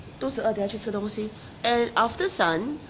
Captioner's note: speaking in foreign language